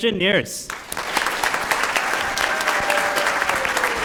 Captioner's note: applause